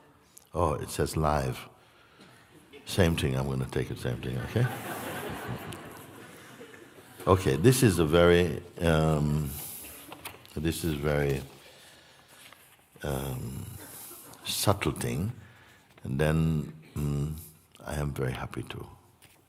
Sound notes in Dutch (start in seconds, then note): 4.4 gelach